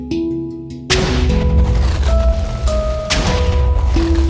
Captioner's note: explosion sounds